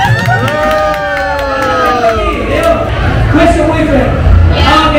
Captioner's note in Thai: ปรบมือ